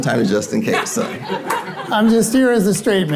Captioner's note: audience laughing